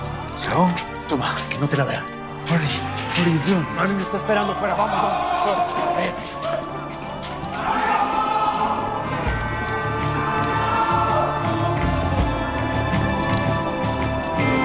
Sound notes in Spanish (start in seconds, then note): 5.0 Griterío; 6.0 Alarmas sonando